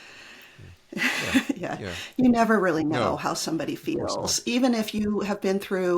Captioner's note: laughs